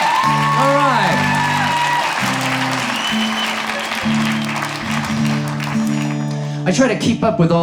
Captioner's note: audience laughs; audience cheers